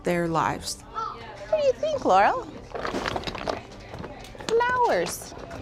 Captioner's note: blocks rattle